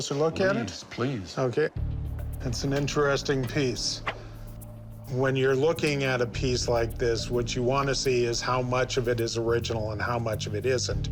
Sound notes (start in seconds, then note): none